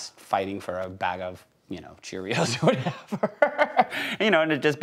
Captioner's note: laughs